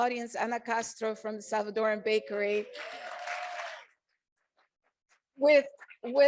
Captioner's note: audience applauding